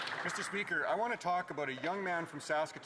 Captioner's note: applause